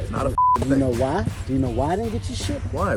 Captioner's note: beep